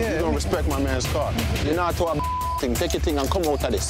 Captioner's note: beep